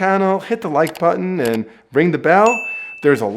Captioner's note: bell dings